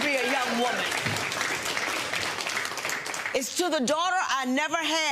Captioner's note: audience applauds